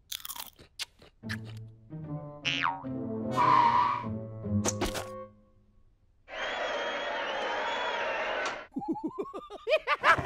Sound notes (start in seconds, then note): 6.2 crowd cheering; 8.8 chittering laugh